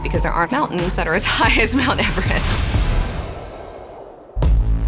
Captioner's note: laughs; upbeat music